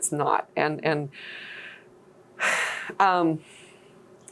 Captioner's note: deep sighing